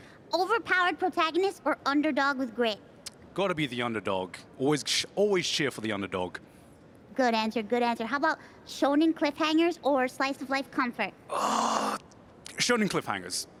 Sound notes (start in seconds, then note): none